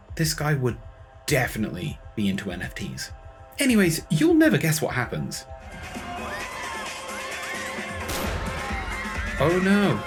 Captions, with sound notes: This guy would definitely be into NFTs. Anyways, you'll never guess what happens. *GUNSHOTS AND SCREAMING, YET AGAIN* Oh no.